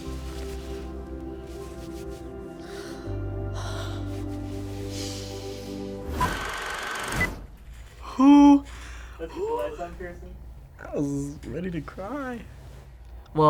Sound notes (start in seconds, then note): 1.5 gentle music; 6.4 film projector whirring